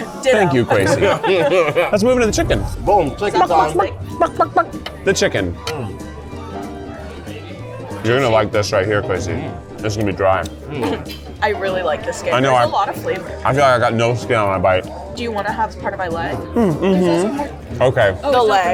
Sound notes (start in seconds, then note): 0.4 laughter; 3.6 clucks